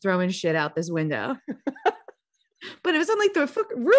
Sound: laughing

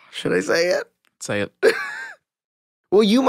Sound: Tony laughing

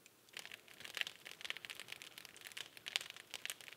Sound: fire crackling

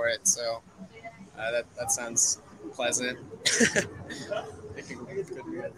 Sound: chuckles

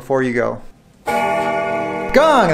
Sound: bell rings

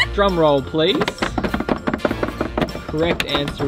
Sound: table drumming

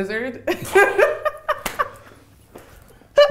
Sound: laughs

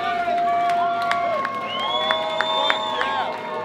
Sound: crowd continues cheering

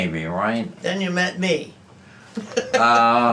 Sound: laughs

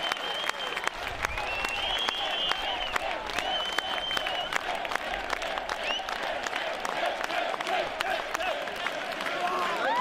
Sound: crowd

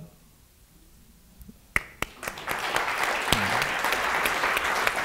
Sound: audience applauding

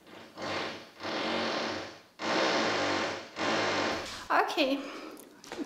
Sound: drill revving

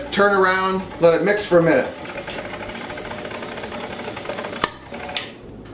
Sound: mixer whirring

